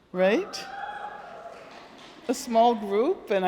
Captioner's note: audience cheering and applauding